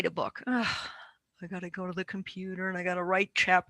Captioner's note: sighs